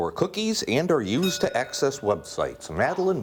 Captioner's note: bell rings